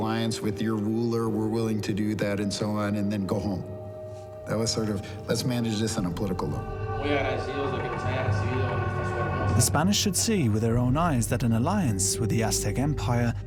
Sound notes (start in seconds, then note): 6.6 speaks indistinct Spanish